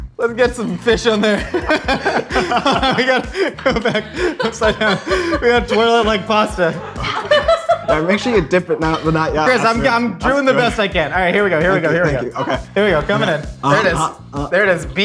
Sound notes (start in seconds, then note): 1.6 laughing; 7.4 laughing